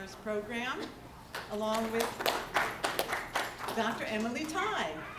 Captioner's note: applause